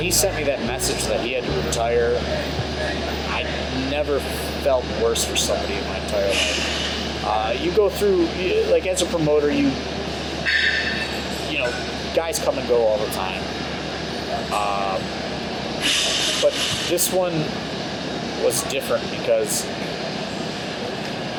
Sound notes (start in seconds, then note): 13.9 machinery hissing